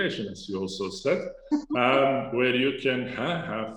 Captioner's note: laughs